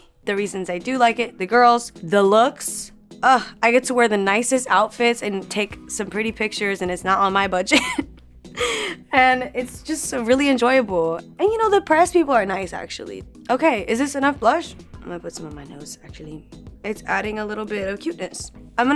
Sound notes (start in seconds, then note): 7.8 laughing